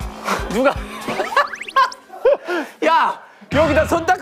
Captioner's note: Tawa meledak